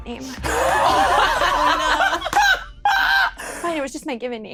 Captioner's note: all laughing